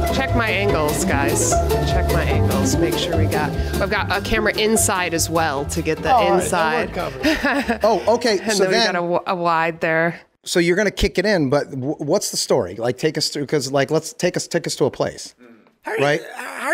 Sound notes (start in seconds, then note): 6.2 laughing; 6.5 Charlie muttering